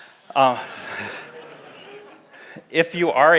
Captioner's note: laughs; audience laughs